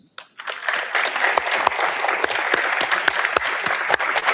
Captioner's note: audience applauds